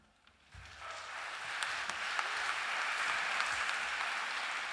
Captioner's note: applause